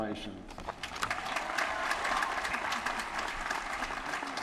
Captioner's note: applause